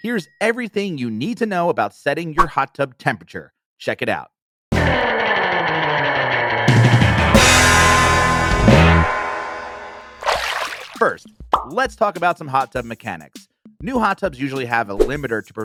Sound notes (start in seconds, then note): 4.7 upbeat surf rock music; 10.2 water splashing; 12.6 laid-back music